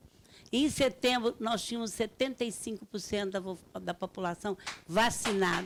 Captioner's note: speaking Portuguese